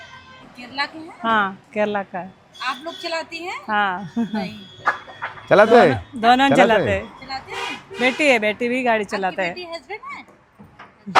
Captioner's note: speaks in Hindi